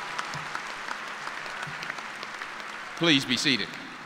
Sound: cheers and applause

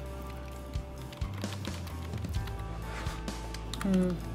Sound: keyboard clacking

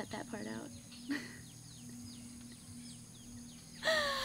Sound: chuckles

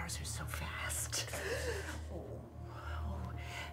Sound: groaning

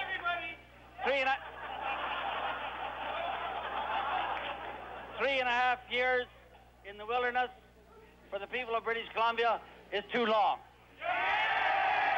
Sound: cheers

